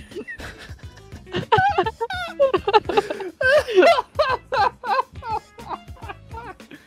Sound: laughter

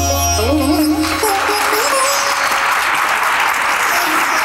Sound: audience applauding

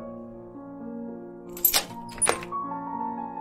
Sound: door lock sounds

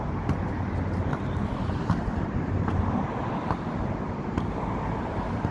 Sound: sounds like a basketball dribbling

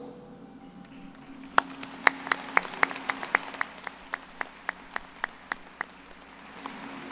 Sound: applause

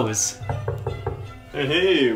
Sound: knock knock knock knock

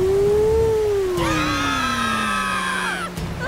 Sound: roars; all screaming

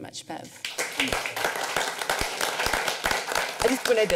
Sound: applause

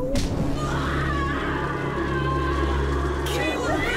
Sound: kick; pained agonizing fearful screaming; shouting

